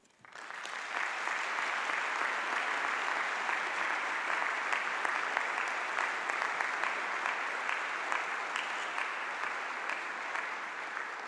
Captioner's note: audience applause